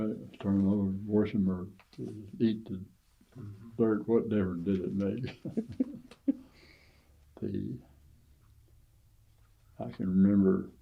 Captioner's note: laughs